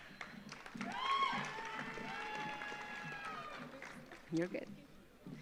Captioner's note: audience applauds; audience cheers